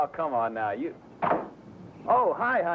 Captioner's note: door closes